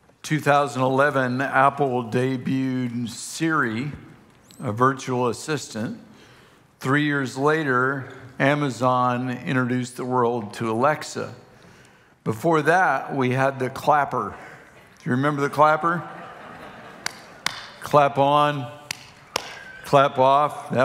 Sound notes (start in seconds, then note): 15.2 congregation laughing; 17.0 claps